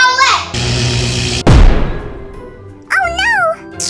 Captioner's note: electric zap